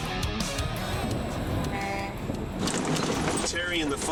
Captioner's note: car honks